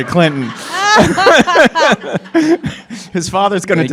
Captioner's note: laughter